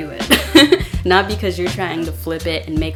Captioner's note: laugh